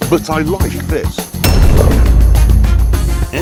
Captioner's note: Toothless purrs